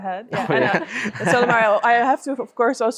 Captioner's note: group laughs